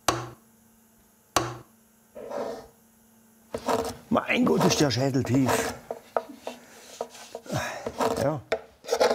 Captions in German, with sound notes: Mein Gott, ist der Schädel tief. (seufzt:) Ja ...